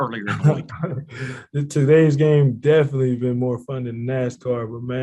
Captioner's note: chuckles